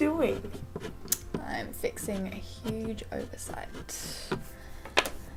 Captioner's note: scratching into the wood of the bedside table